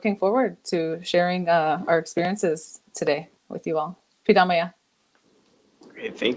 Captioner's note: speaking Ojibwe